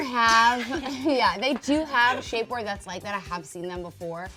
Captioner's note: laughs